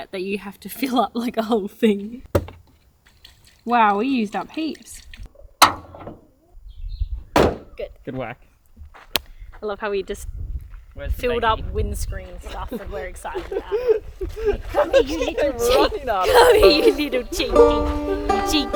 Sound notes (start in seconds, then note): 7.2 hood slams; 13.3 laughs